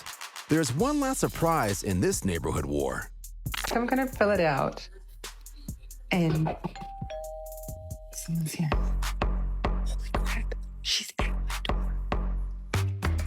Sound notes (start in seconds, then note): 6.7 doorbell rings